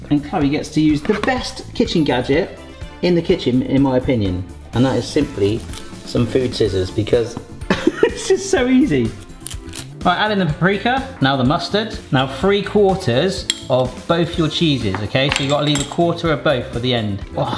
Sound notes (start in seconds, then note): 9.1 snipping